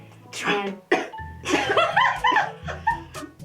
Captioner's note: laughter